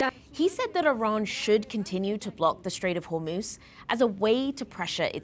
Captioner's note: speaking alternate language